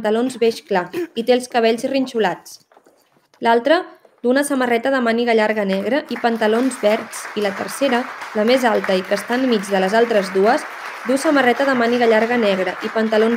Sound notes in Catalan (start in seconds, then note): 5.5 aplaudiments